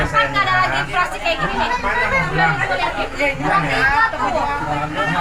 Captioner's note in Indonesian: tertawa